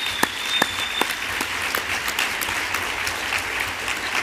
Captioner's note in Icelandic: fagnaðarlæti